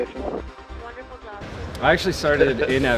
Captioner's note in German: Voiceover